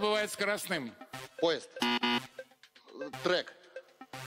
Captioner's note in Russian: пи-пи